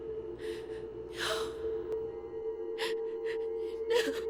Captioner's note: sobbing